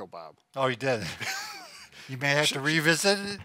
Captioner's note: laughing